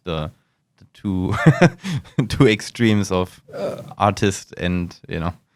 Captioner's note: laughs